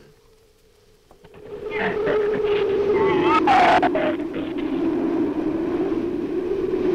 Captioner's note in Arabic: تعوي الرياح; تزأر الزبابة